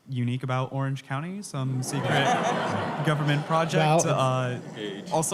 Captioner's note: laughter